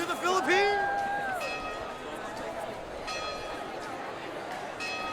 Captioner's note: chatter